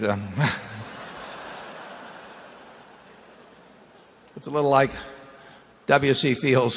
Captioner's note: laughter